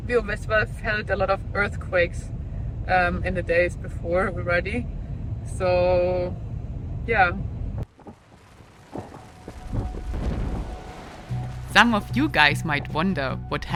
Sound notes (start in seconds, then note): 8.0 gentle music; 8.0 volcano rumbling